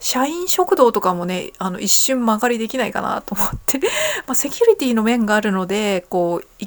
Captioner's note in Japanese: 笑い